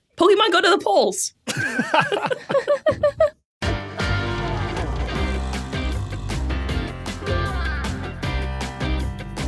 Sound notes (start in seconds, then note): 1.4 group giggling